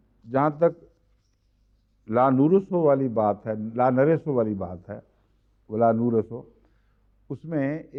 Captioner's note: Arabic